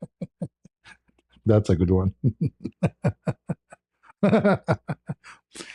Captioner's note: ketawa